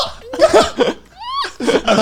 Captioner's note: crying; laughing